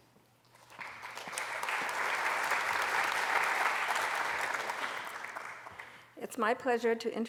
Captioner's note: applause